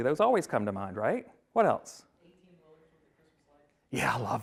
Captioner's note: woman speaks off mic